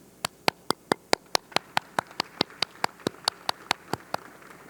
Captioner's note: audience clapping